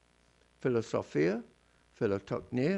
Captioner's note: non-english speech